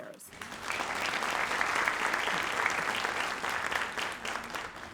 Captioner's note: audience applauds